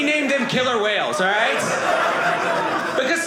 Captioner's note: audience laughing